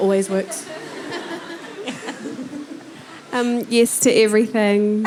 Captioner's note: audience laughing